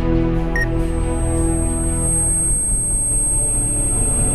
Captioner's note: high pitched ringing; phone beeps; suspenseful music